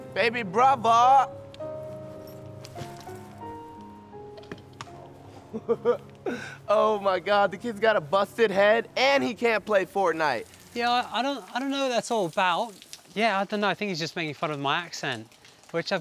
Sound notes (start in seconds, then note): 5.4 laughs